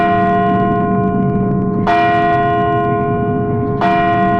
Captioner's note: clock chimes